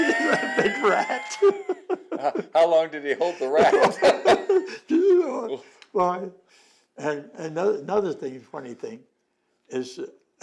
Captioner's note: laughter